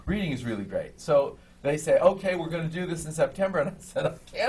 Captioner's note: laughs